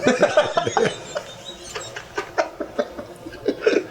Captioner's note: laughing